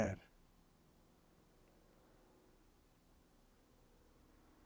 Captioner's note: pauses 13 seconds